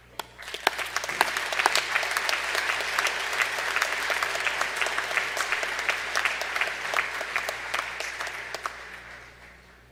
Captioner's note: applause